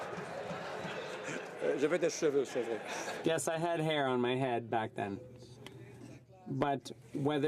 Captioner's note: laughter